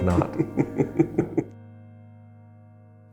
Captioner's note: laughing